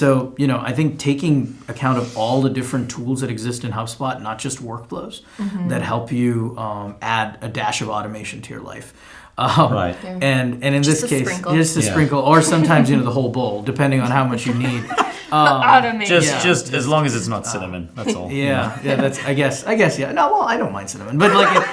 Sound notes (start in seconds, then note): 14.1 chuckling; 21.1 laughing